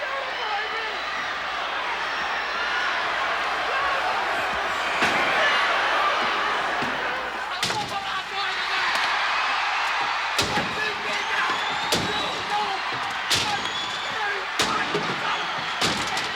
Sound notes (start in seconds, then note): 1.6 audience shouting; 7.9 Roddy shouting; 11.2 audience cheering; 11.2 bat banging